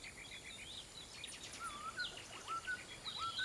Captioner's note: bird whistling